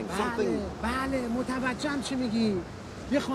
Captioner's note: speaks foreign language